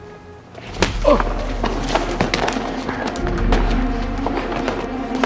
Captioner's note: grunts; fist punches; suspenseful music